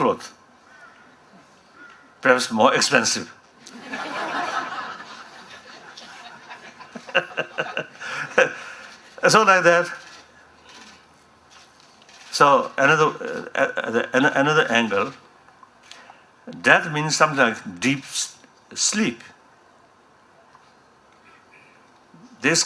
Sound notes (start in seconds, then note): 3.6 laughter